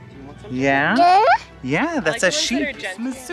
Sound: baby babble

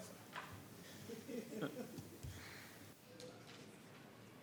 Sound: laughing

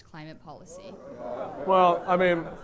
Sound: laughter

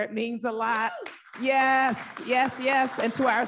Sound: audience applauding

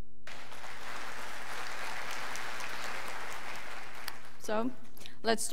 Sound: scholars applauding

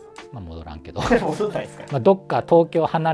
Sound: laughing

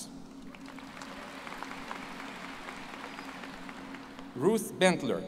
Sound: applause

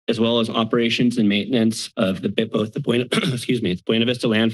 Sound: clears throat

